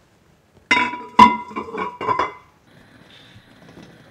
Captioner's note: pot lid clinking